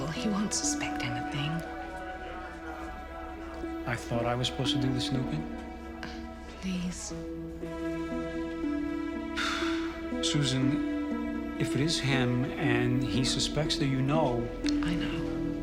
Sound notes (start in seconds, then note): 9.3 sighs